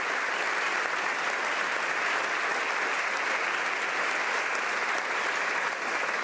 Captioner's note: applause